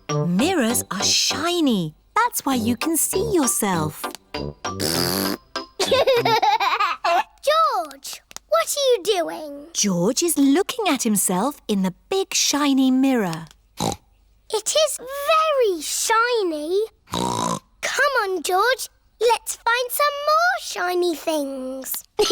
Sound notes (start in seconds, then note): 4.7 blows raspberry; 5.8 giggles; 13.7 snorts; 22.1 giggles